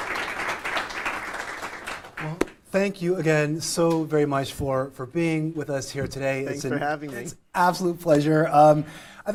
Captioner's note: applause